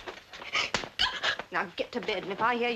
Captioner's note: hand slaps